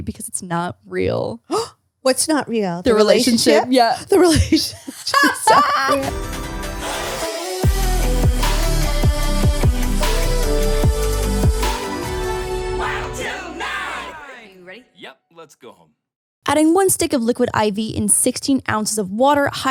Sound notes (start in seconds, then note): 2.1 gasps; 5.6 laughing; 5.7 upbeat electronic music